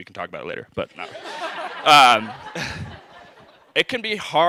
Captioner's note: laughter